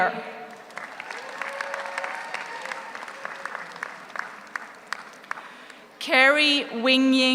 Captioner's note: audience applauds; audience cheers